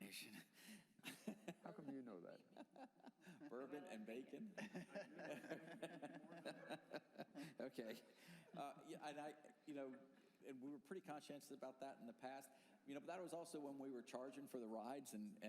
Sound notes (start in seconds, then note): 3.7 laughter; 8.0 laughter